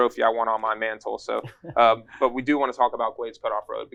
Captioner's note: laughter